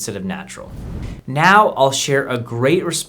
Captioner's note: air whooshing